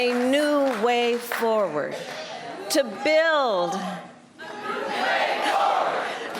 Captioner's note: applause